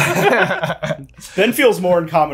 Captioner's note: all laugh